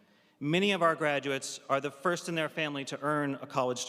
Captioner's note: none